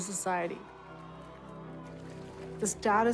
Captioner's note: crowd cheering